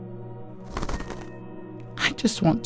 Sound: flutter

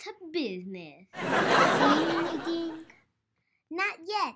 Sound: audience laughs

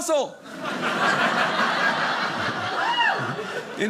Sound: audience laughing

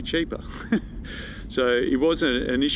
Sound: chuckling

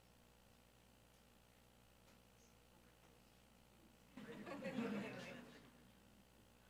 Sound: attendees laughing

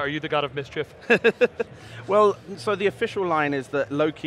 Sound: laughs

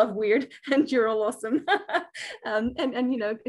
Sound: laughs

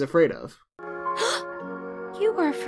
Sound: gasps

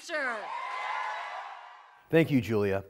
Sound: crowd cheering

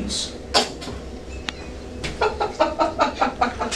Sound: laughter

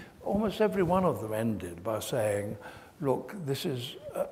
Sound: none

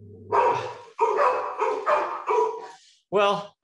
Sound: dog barks

